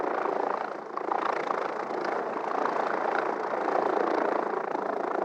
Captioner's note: helicopter noise